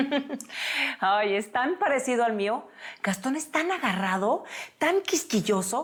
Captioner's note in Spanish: risas